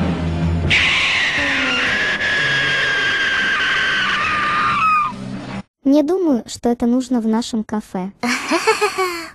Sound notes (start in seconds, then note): 1.0 kurt screaming; 8.2 laughs